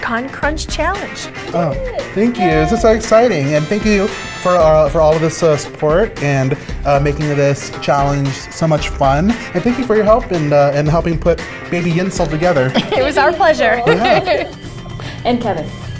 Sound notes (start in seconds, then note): 3.5 laughs loudly